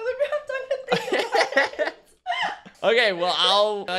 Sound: both laughing

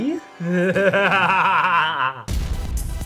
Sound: maniacal laughter

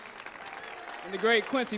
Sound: audience applauds

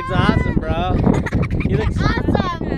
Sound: laughing

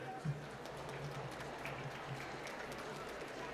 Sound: applause

